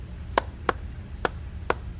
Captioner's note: clapping a rhythm